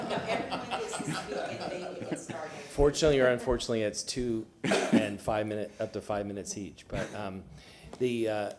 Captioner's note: laughter